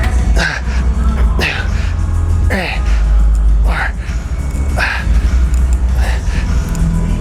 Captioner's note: grunting